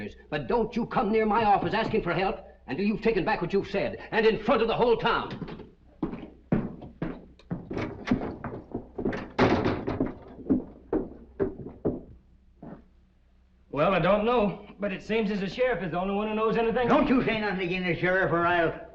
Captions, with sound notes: but don't you come near my office asking for help until you've taken back what you've said, and in front of the whole town. [ FOOTSTEPS ] [ DOOR SLAMS ] I don't know, but it seems as the sheriff is the only one who knows anything... Don't say anything about the sheriff or I'll...